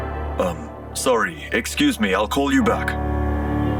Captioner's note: Angad Over Call